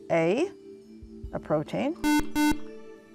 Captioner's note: buzzer